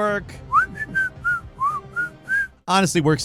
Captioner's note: whistling